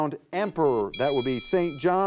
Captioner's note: bell rings